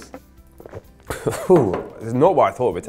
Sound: glugs; laughs

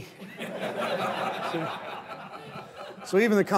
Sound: laughter

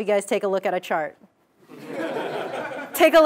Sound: laugh

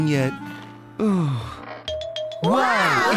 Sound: sigh

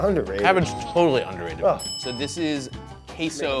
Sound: bell dings

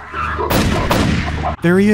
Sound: pow-pow

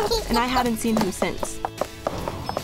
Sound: footsteps

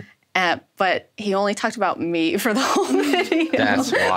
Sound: laughs

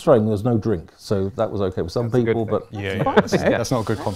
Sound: laughing

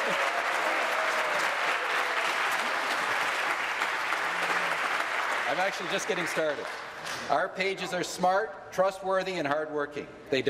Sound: cheering; applause

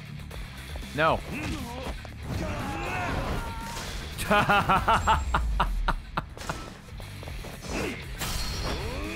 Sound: laughs

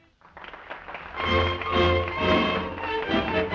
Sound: applause

